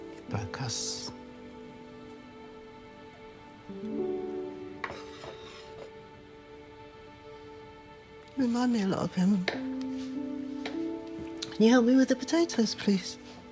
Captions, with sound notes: It broke us. (knife scraping) You remind me a lot of him. Can you help me with the potatoes, please?